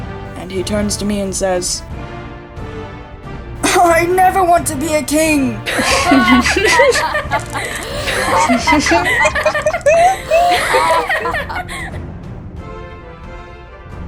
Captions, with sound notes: And he turns to me and says, “I never want to be a king!” (Katanah, Flaira, Altair laughing)